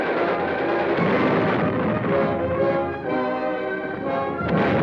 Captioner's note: bombs explode